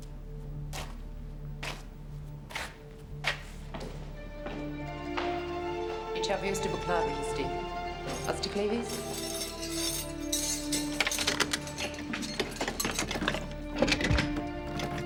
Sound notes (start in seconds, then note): 5.0 footsteps thudding; 6.5 speaking foreign language